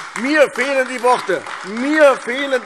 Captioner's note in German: Beifall AfD